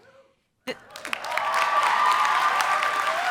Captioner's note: applause